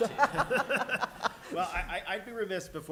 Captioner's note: laughter